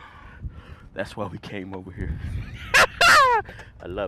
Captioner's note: laughter